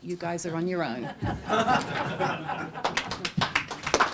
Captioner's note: laughter; applause